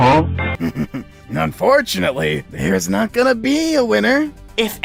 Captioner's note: chuckles